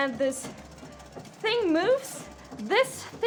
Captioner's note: the mechanic of the machine rattles; the mechanic of the machine starts rattling; the mechanic of the machine rattles